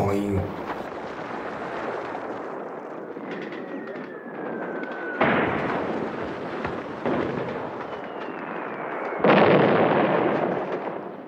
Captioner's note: sounds of artillery fire